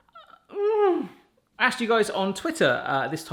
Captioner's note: groans